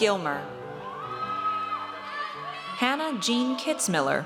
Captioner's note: audience cheers